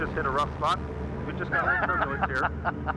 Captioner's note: laughs